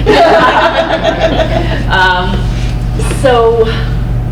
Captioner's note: crowd laughs